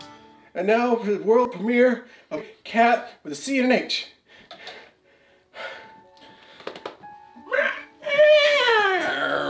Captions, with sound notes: And now for the world premiere of Cat with a "C" and an "H" (heavy breathing) (Cat screech)